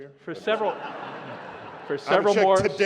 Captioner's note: laughter